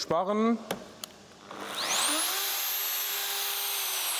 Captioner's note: whirring whir